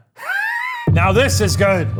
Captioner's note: laughs